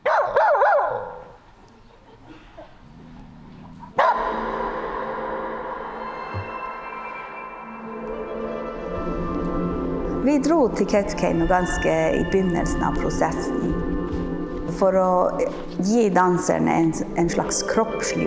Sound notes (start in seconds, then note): 0.0 dog barking; 4.0 dog barking; 6.1 soft music; 10.3 speaking in Norwegian language